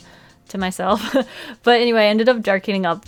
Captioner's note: laughs